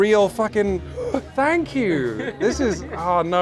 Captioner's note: gasps; laughing